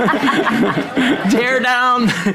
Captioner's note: audience laughing